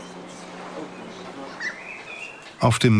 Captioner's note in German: Vogelzwitschern